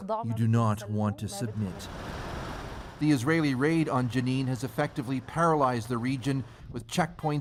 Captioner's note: speaking alternate language